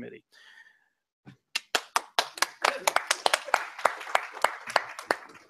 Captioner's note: scattered applause